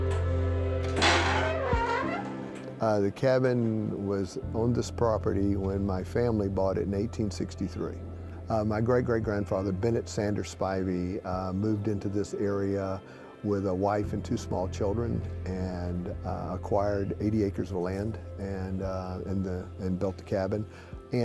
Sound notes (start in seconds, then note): 0.8 door squeaks